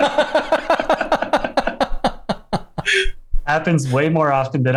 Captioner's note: laughter